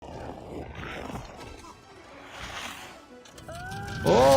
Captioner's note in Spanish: Jack Frost gruñendo; niño gritando